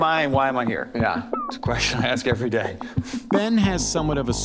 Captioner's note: laughing